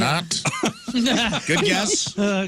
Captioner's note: laughing